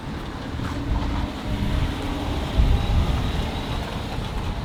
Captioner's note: car engine whirs